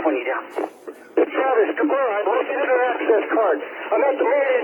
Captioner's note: yelling